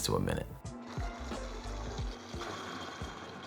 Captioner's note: blender running; light jazz music playing in background throughout video